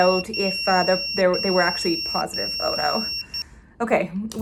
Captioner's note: pager goes off